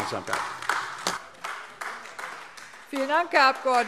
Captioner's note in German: Beifall AfD